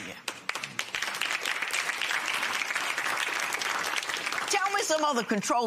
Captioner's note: applause